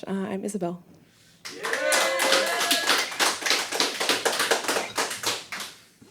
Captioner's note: background clapping and cheering